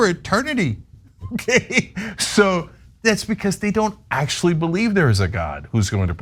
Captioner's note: laugh